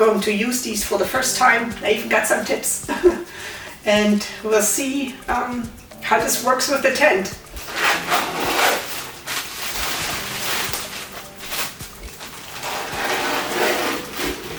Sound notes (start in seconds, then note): 3.8 laughs; 7.6 sound of opening zipper; 10.4 continuous low music